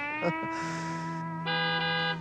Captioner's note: two honks